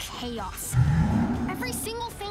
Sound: roars

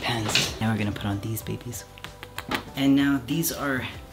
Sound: kissing

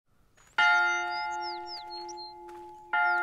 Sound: bell tolling

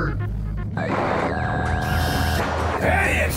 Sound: screen buzzes

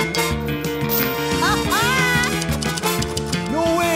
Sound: theme music playing; laughing

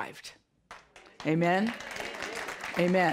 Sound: audience applause

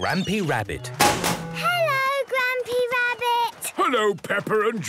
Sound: chrashing

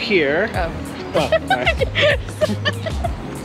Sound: laughs

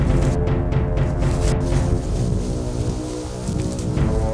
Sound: sliding through woodchips

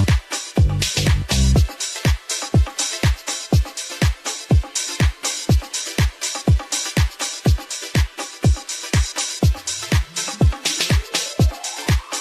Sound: applause

